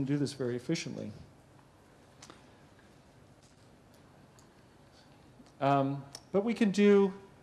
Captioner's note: pause